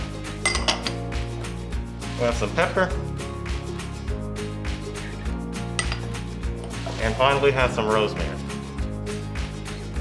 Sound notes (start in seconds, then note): 0.4 glass clinks; 5.7 glass clinks